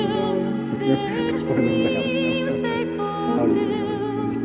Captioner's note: laughing